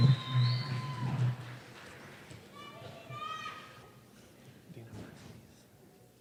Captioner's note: cheers and applause